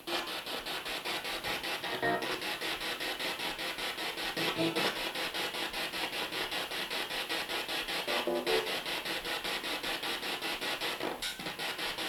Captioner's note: sound of the Spirit Box in the background